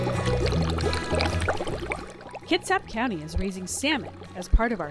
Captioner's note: bubbles and music playing